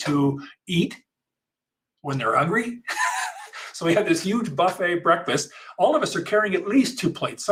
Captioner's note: laughs